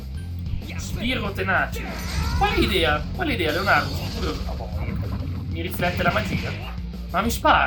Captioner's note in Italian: urlo